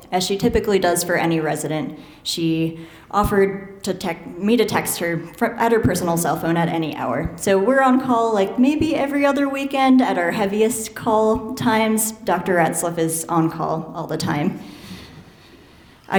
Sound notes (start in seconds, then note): none